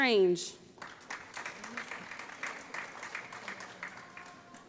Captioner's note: applause